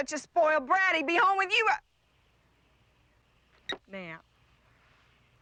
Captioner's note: phone beeps